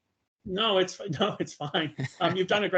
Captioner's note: laughing